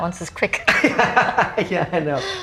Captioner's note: both laugh